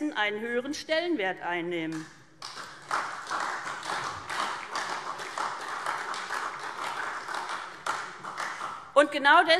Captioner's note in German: Beifall SPD und Freie Demokraten